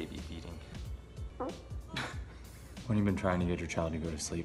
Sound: baby farts

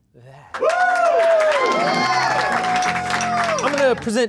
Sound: cheering and clapping again

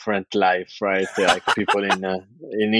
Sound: <Laugh>

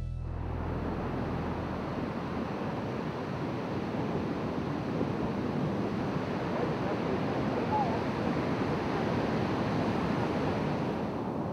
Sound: ocean sounds

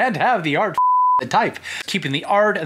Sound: beeping

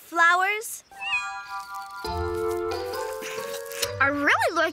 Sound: cat meows

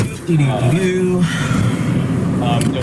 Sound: sighs

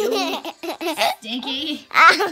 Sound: laughing

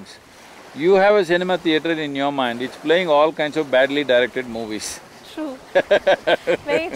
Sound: laughs

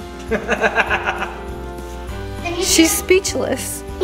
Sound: laughing

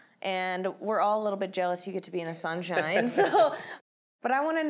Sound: laughs

